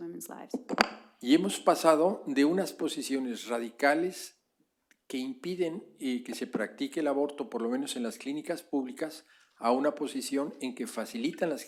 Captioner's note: speaking spanish